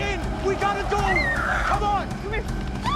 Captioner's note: screams